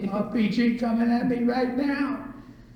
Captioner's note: imitates speech pattern